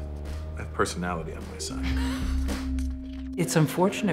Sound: laughs

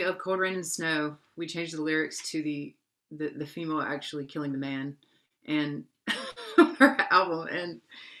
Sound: laughs

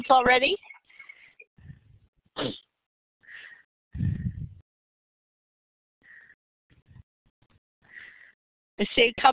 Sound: breathing

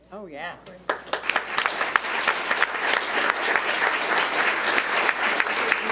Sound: audience applauds

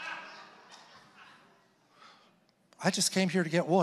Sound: congregation laughing

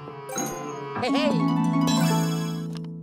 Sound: victorious chime sound

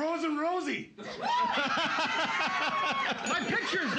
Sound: loudly laughing; cheers and applause; bell softly chimes

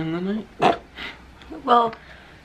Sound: snorting

